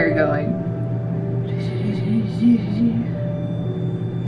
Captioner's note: in a sing-song voice